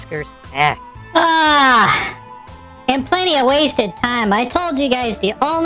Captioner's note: yawning